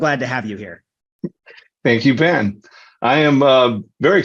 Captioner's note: laughs